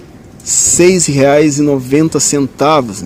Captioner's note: none